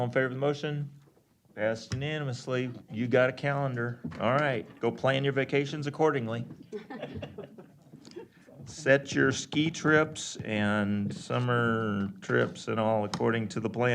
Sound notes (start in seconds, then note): 6.6 laughter